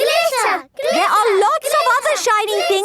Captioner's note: chanting